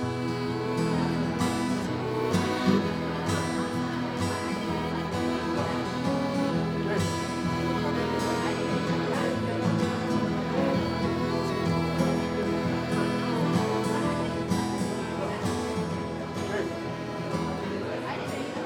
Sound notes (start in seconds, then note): 1.0 people talking; 1.9 soothing music; 10.2 soothing music; 11.5 people talking